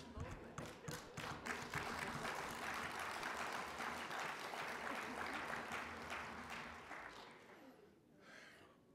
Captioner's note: applauding